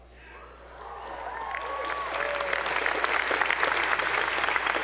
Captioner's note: attendees applauding